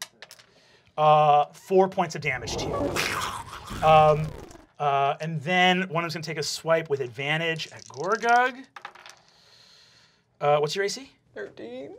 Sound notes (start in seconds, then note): 0.0 dice clacking; 2.2 snarling; 7.4 dice clacking